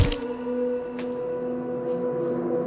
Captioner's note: heavy axe blow